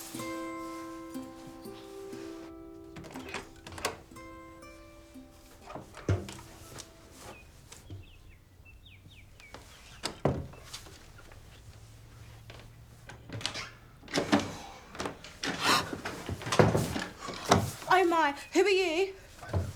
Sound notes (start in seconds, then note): 0.0 gentle music fading; 2.8 door clicking; 10.1 door thudding; 14.0 door clicking; 15.6 Crystal gasping